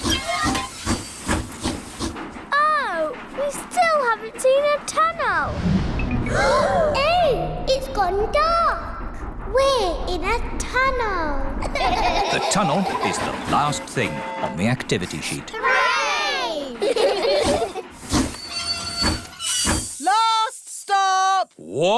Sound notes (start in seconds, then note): 0.0 train chugs; 6.2 all gasp; 11.6 all laugh; 16.5 laugh; 17.7 train chugs